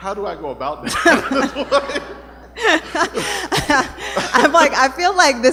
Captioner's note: laughter